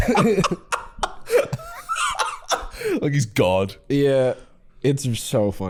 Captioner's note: laughing